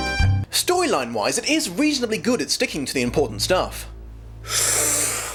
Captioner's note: inhale